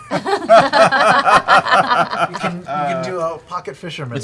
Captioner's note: laughter